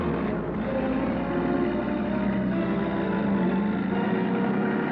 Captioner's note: truck rumbling